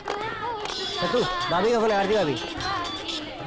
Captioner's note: Cellphone rings